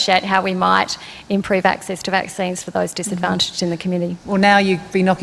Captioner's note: laughs